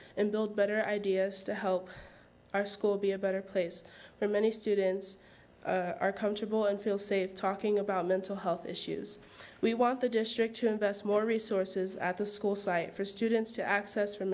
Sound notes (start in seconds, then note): none